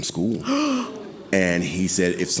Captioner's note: gasping